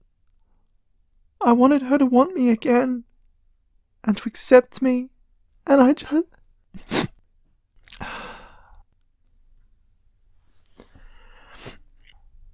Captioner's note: sob